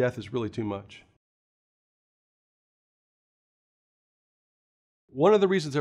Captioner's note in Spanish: Sin audio